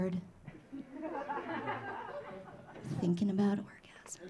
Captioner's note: audience laughing